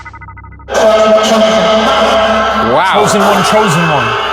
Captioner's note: static buzzing